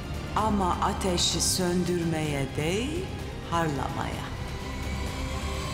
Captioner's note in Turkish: İçinden konuşuyor